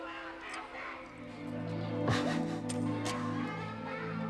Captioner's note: Chris shouts; somber music